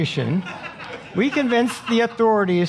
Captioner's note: audience laughing